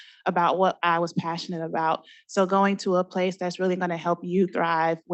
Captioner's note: none